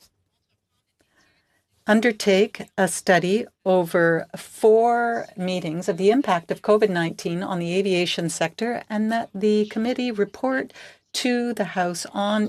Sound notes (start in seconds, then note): 0.7 speaking French